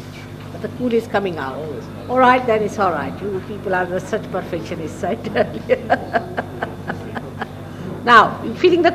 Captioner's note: shri mataji laughs